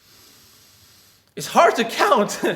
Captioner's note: air hisses